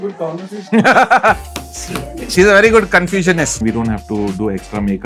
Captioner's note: taps the table